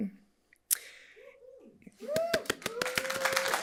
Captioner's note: audience applauding; audience members cheering; audience member cheering